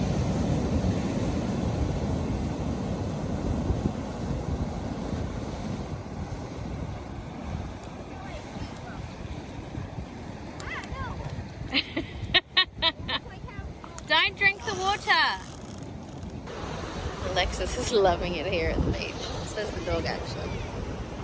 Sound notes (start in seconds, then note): 11.7 laughs